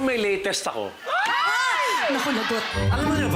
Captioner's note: everyone gasp